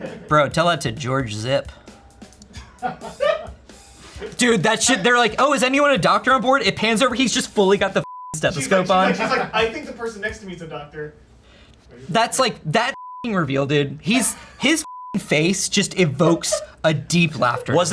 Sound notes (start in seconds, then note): 2.5 crew laughs; 8.0 beep; 14.7 beep